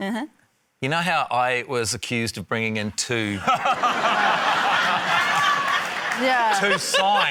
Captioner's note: laughter